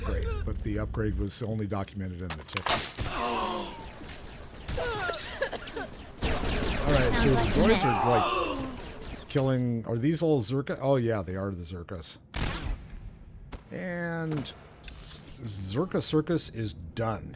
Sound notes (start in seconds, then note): 3.9 gunshots; 4.8 chuckles